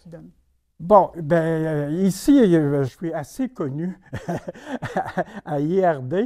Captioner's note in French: rires